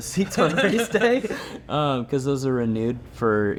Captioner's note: everyone laughing